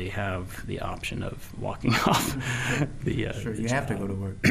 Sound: chuckling

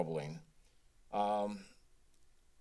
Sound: silence

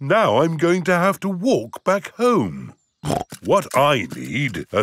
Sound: snorts

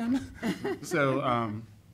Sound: laughing

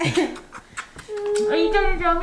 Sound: cooing; kissing sounds

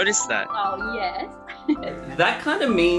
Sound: laughs

